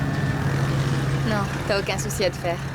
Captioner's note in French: parlant russe